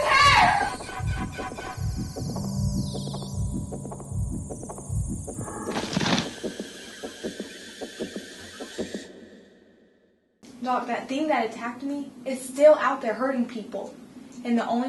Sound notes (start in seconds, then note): 5.7 thud